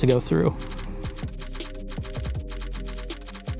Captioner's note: old-fashioned typewriter noises